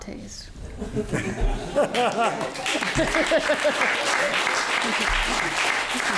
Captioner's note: audience laughing; audience applauding